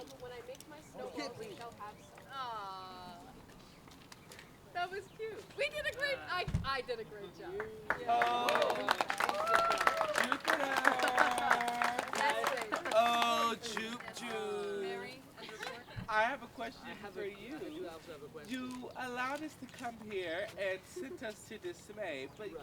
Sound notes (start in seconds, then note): 4.2 aww!; 9.2 applause